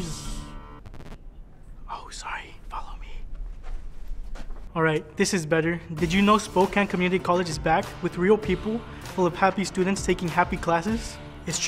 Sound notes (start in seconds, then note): 0.2 woman shushes; 0.4 record scratches; 1.8 whispering; 4.7 speaking at normal volume